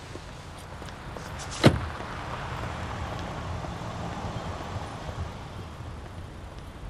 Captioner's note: cars whooshing; car door slamming